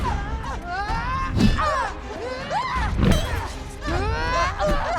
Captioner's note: fighters grunting